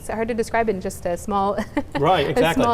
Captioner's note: laughter